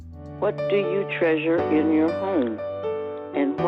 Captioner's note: voice On Computer